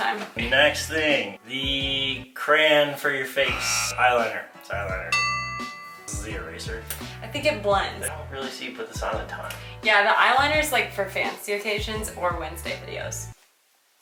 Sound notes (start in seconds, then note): 3.5 buzzer; 5.1 ding